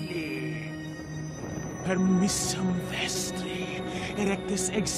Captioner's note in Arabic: التحدث بلغة أجنبية